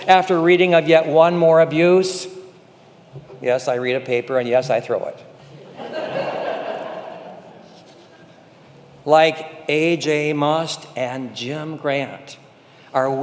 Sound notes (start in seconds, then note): 5.5 congregation laughing